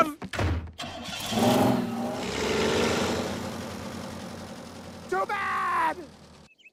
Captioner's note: crane engine starts